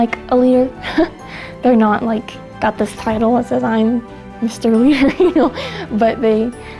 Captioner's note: laughter